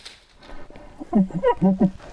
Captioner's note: shooter chuckling